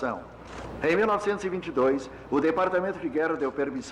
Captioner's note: man Shouting Commands